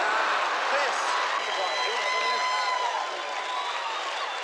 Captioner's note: all cheering